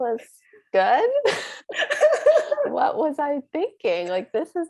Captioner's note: laugh